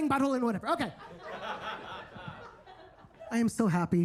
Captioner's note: attendees laughing